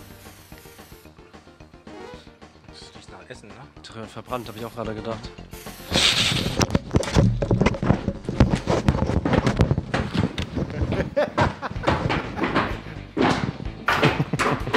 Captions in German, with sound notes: *Videospielgeräusche* Es riecht nach Essen. - Verbrannt, habe ich auch gedacht. *rappelndes Geräusch* *Gelächter*